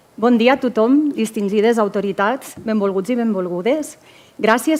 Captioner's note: speaks in foreign language